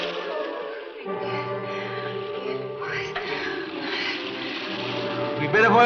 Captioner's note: Ann whispers unintelligibly